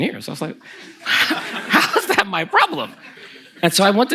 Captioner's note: the audience laughs